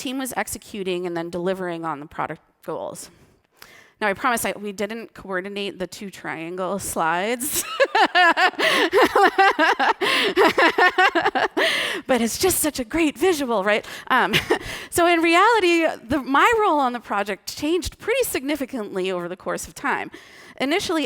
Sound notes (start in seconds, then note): 10.8 laughing